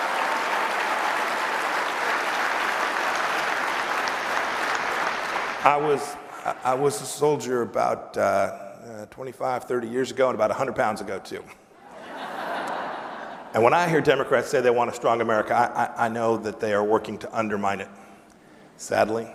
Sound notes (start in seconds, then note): 4.6 applause